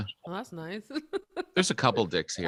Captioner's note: laughs quickly